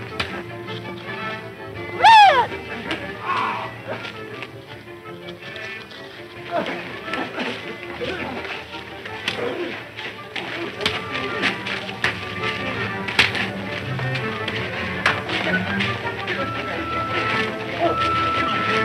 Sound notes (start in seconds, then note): 3.2 men grunting